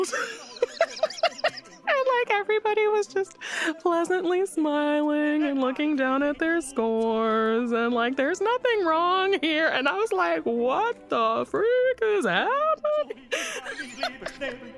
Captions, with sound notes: [laughs] And like everybody was just pleasantly smiling, and looking down at their scores and like, there's nothing wrong here. And I was like, "What the freak is happening?" [laughs]